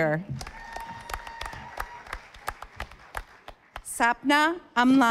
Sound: audience applauding

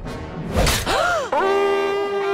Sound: gasps

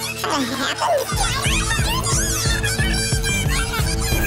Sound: overlapping chatter

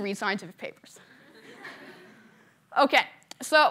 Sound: laughter

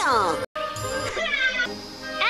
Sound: distorted

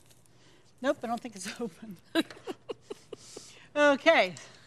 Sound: laughs

